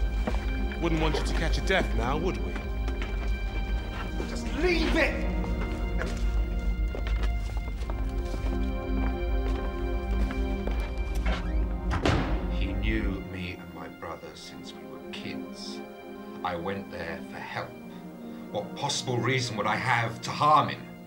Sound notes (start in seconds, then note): 6.2 soft orchestral music; 11.6 door thudding